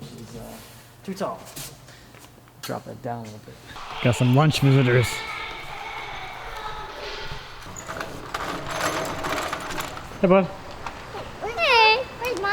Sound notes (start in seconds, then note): 6.7 children playing; 8.7 rattling; 11.0 child vocalizing